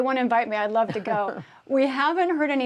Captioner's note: laughter